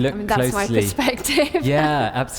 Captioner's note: laughs